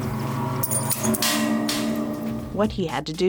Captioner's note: chimes ringing